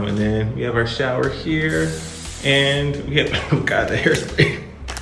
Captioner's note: cough